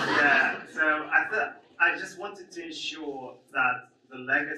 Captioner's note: audience laughs